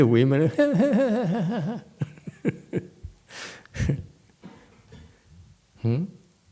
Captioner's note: points and laughs